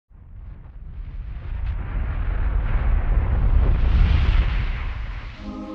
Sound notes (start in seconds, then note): 1.8 whooshing air